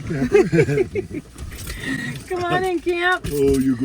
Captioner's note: laughing